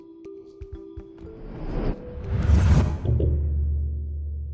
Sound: gentle music; air whooshing

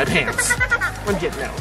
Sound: laughs

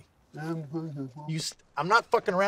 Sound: mocking voice

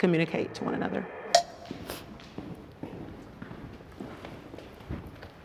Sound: timer ticking

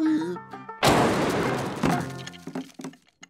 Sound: popping

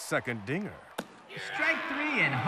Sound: ball smacks in glove

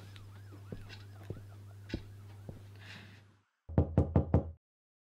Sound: sirens

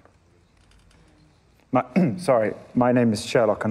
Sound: clears throat

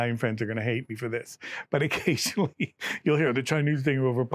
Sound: laughs

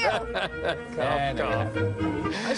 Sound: laughter

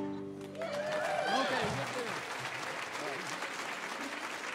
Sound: audience cheering

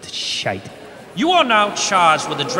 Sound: disapproving MURMURS

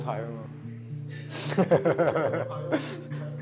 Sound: laughs

